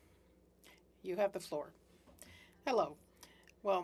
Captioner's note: speaking French